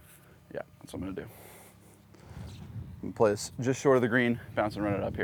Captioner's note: none